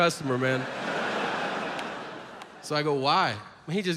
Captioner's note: audience laughs